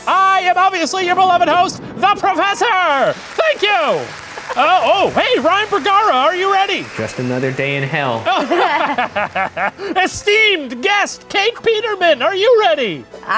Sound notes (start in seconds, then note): 4.1 crowd applauding; 8.1 laughing